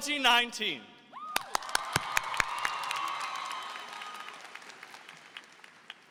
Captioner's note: applause and cheering